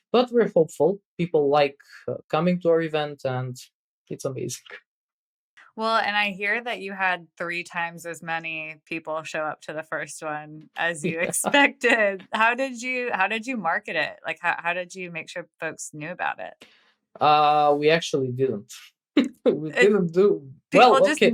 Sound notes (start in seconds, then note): 11.0 <Laugh>